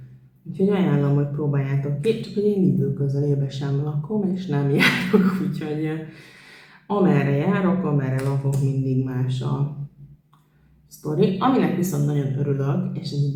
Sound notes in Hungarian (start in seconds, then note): 4.8 nevetés